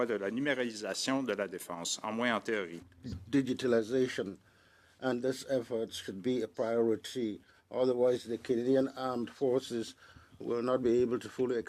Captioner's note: speaking French